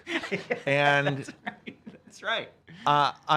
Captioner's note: laughs